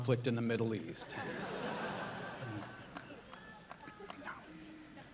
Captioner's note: audience laughing